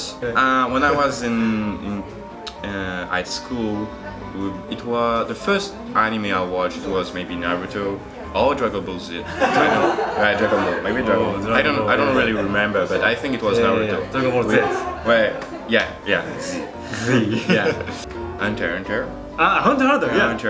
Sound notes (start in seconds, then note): 16.4 laughs